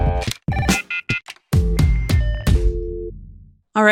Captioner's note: energetic music; phone ringing and dialing